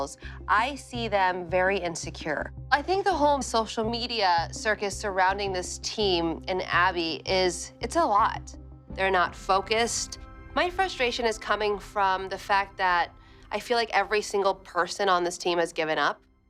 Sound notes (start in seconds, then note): none